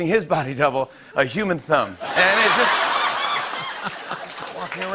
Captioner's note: laughter